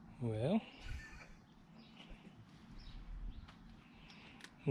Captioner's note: laughs